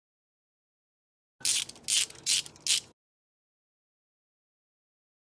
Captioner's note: ratchet Noise